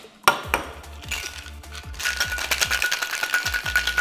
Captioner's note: ice shaking